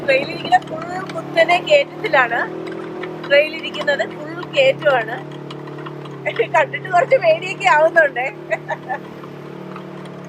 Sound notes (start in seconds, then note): 6.2 laughs